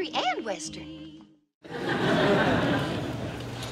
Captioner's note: laughter